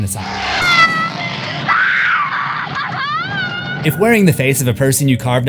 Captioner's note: screaming laughter